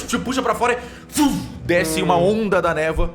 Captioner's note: fwoosh